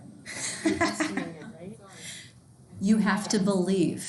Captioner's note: instructor laughing